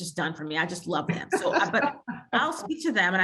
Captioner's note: laughs